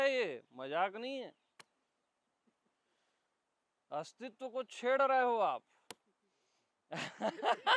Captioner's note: chuckles